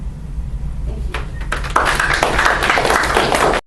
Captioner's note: audience applause